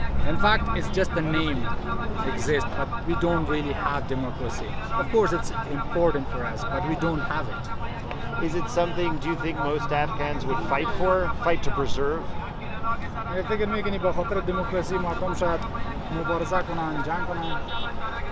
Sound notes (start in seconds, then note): 13.4 speaking in a foreign language